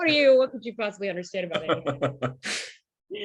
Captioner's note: laughter